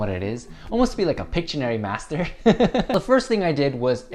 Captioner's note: laughs